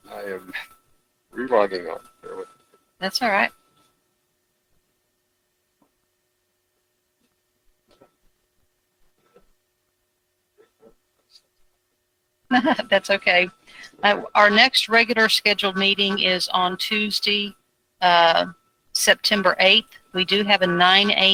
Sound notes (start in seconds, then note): 12.5 laughs